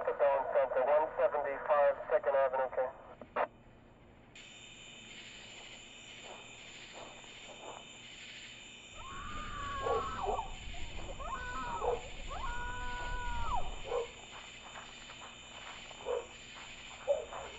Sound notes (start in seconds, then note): 9.2 woman screams; 11.2 dogs barking